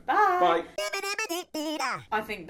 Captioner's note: playful vocalizing